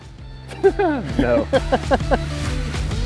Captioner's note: laughing